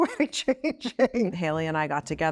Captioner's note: Chloe laughs